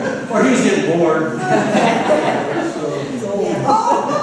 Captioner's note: laughter